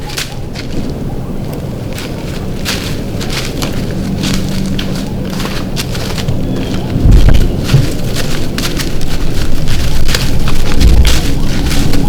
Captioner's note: crunching leaves